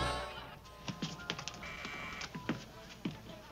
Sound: doorbell buzzes

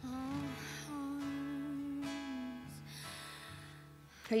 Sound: singer breathes deeply

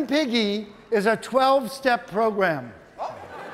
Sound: audience laughing

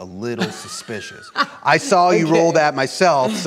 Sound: laughs

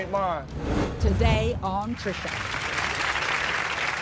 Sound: voiceover

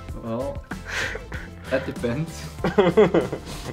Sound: laughing

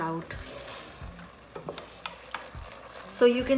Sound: spoon scraping; sizzling

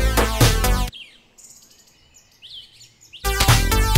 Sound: birds chirp; upbeat music

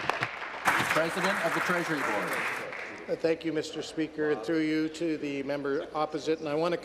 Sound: applause

